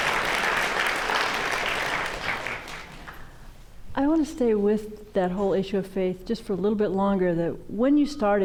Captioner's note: applause